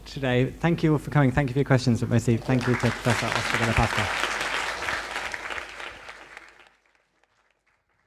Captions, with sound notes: Thank you all for coming and thank you to Professor Oscar Della Pasqua. [APPLAUSE]